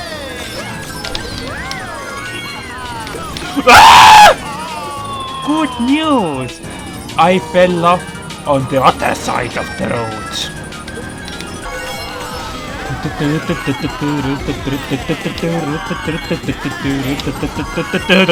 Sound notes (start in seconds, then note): 2.2 screams!; 12.7 humming along the theme